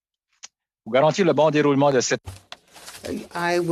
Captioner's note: speaking French